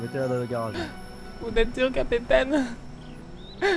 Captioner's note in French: pleurs